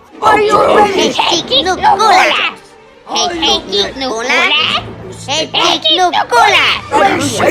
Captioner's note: Jawas speaking Jawese